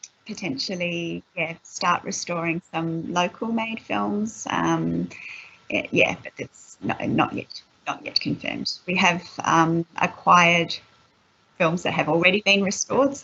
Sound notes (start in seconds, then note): none